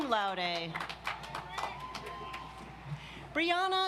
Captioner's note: audience applauds